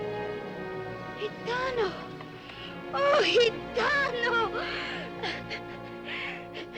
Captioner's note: crying